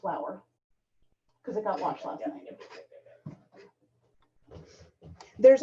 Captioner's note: chatter